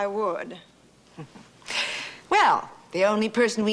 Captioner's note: laughing